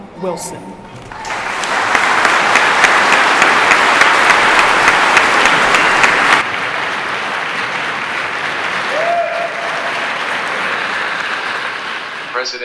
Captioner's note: applause